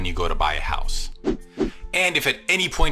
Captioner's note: whoosh